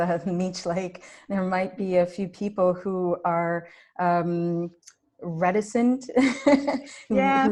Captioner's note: chuckles